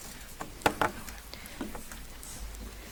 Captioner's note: object clunking